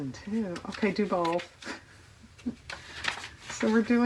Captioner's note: laughs